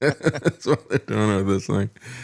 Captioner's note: laughing